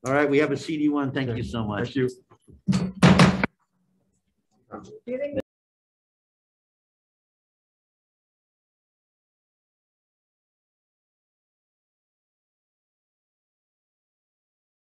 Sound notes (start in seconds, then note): 2.6 gavel banging; 4.2 group chattering